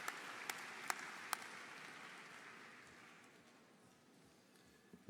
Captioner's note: applause